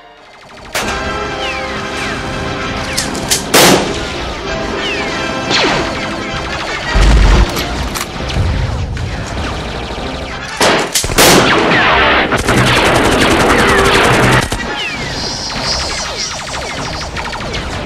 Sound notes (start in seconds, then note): 0.6 shotgun blast; 0.7 gunfire; 3.3 pistol shot; 5.4 gunfire, explosion; 7.4 gun cocking; 8.1 gunfire; 10.5 shotgun blast; 12.3 rapid gunfire; 14.6 gunfire, snake hissing